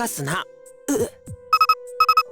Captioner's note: guilty wince